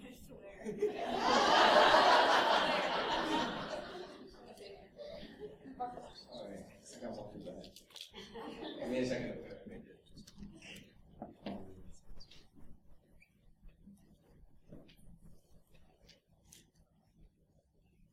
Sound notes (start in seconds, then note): 3.4 laughter